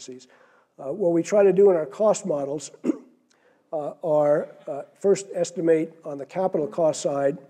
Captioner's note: cough